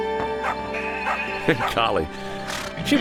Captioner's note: Clementine barking